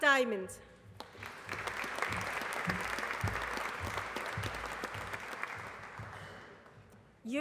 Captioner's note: applause